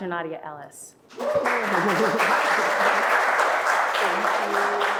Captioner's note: audience applauding